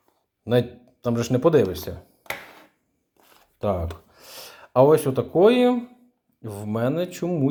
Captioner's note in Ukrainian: сопіння